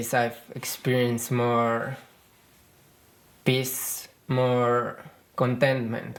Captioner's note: none